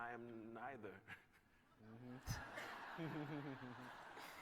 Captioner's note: laughter